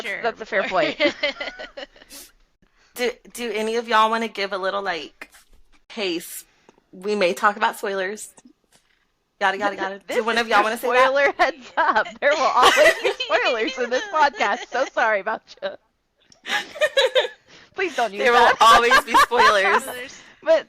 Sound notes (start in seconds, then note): 18.0 laughter